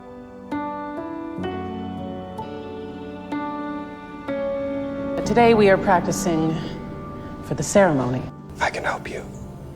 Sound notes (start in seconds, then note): 5.6 voiceover; 8.5 voiceover; 8.7 whispering